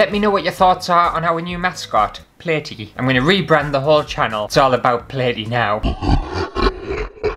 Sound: evil laugh

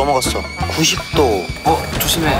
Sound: swoosh

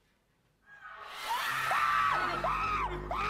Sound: screams echo

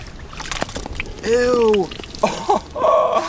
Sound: ketchup squirting; laughing

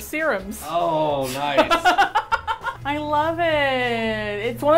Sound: laughs

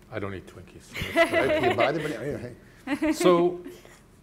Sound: panelists laughing

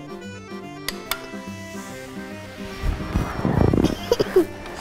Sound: button clicks; chuckles

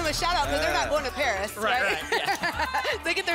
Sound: laughs

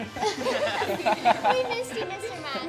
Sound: students laughing

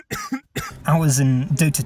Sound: cough cough cough

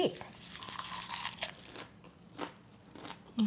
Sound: crunch

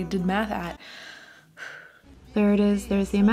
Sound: sighs

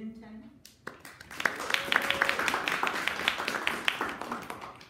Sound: audience applauding

